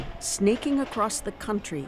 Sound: sirens

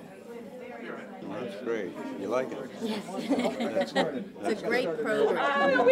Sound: laughter

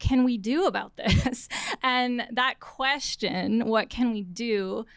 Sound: laughter

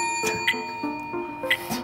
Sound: bell dings

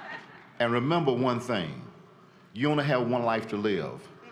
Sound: laughter

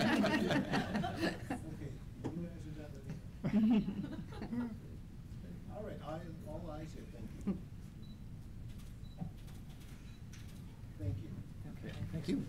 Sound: laughter

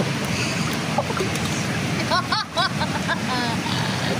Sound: laughing

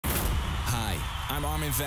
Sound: intense music; cheering

